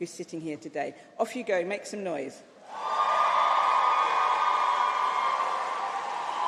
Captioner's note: applause